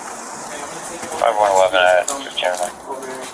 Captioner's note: radio chatter